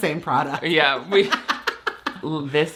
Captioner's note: laughs